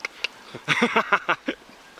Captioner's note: snickering